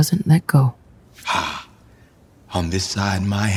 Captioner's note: quietly